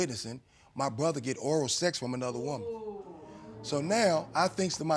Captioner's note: audience reacts